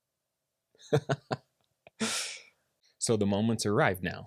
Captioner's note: laughing